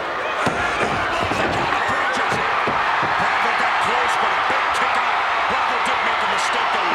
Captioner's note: crowd cheering; Vince and Jesse chattering